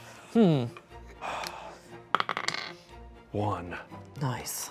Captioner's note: sighs